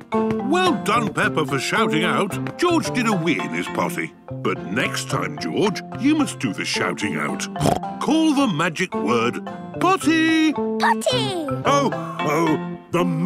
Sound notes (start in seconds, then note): 7.5 snorts